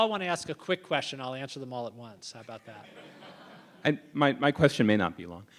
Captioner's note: laughter